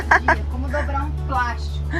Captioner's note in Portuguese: risadas